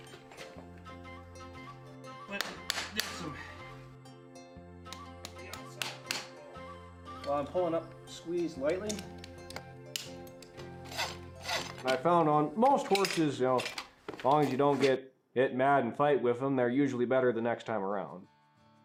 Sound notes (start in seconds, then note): 0.1 gentle music; 0.1 hammer taps; 8.8 tool clicks; 10.6 file rasps